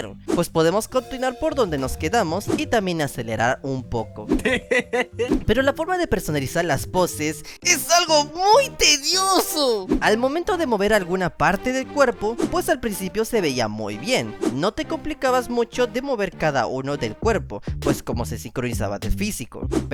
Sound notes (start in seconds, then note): 4.4 laugh